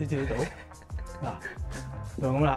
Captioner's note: laughs